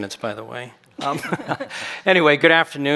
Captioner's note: chuckles